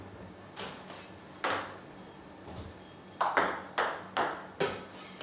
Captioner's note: ball ping pong hitting continues